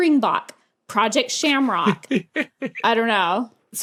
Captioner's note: giggles